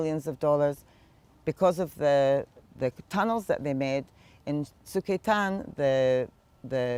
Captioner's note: hebrew